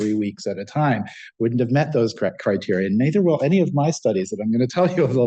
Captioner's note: laughs